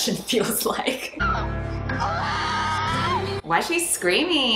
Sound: screaming

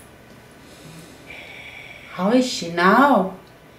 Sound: oxygen mask breathing sound

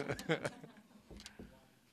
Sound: laughter

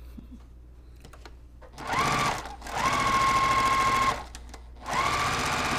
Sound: sewing machine resounding

